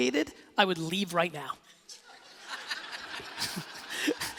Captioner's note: laughing